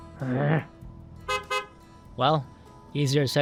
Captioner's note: groaning; horn honking